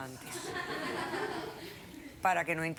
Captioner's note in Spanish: risas del público